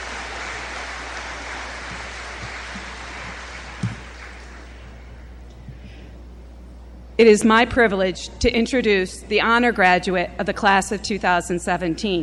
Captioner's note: applause